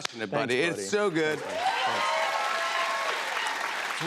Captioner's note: cheers and applause